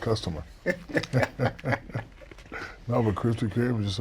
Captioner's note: laughter